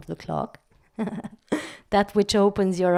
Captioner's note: laugh